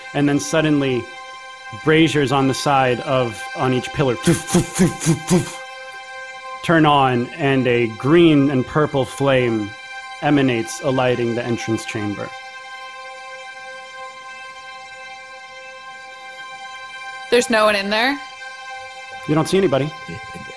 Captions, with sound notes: And then suddenly braziers on the side of, on each pillar (makes puffing sounds) to turn on and a green and purple flame emanates alighting the entrance train, - there's no one in there? - You don't see anybody.